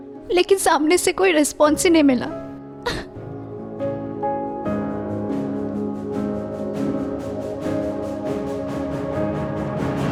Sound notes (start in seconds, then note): 2.7 sad music plays; 2.8 sobs